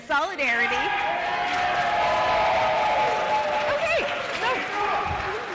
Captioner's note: cheers and applause